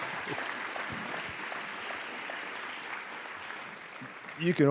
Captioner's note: applause